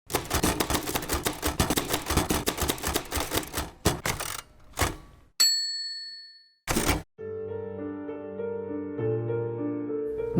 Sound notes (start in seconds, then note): 0.0 typewriter keys clacking; 5.4 bell dings; 7.2 soothing music